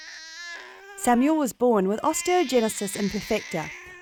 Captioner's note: crying baby